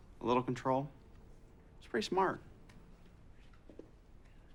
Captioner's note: none